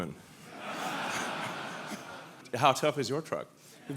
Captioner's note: audience laughing